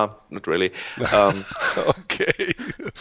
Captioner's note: chuckles